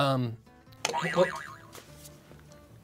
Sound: boing

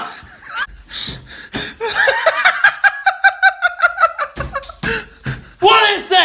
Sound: laughing

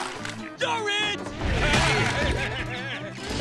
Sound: laughing

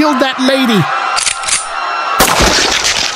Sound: gun cocks; gunshot with blood hit

